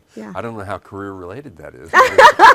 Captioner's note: laughs